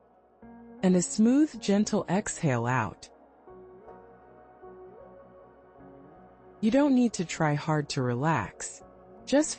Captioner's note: pause; pause